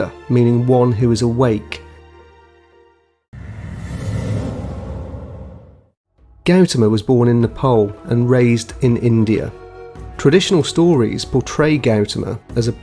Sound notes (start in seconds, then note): 3.3 air whooshing